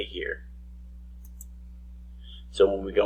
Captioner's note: mouse click